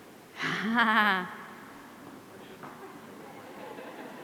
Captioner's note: chuckles; audience laughing